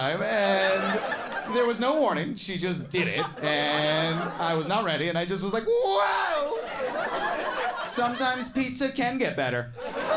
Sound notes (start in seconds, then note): 2.9 audience laughing; 6.5 audience laughing